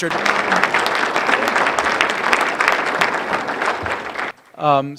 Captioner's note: applause